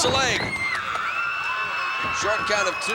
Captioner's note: audience cheering